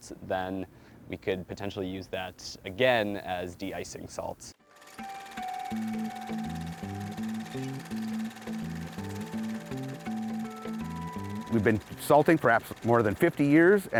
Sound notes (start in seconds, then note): 4.6 gentle music; 5.1 camera whirring